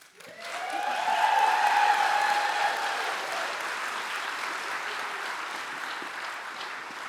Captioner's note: audience cheering